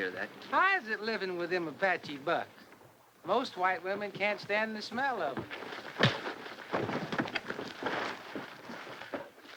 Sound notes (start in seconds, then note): 6.0 thud